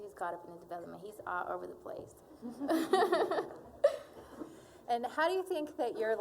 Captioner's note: all laughing